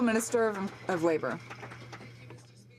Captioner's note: some Applause